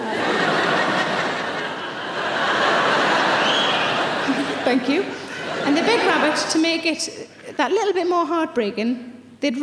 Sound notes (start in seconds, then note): 0.0 audience laughing; 3.3 audience member whistles